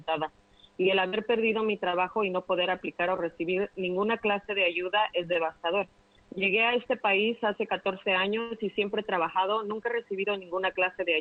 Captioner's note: speaking spanish